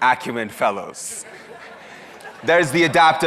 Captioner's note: audience laughs